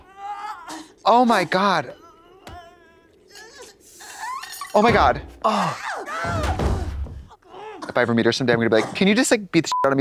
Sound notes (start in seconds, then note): 6.3 floor thuds